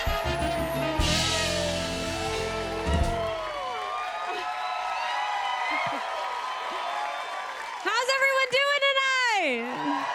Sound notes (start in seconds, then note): 3.1 cheers and applause continue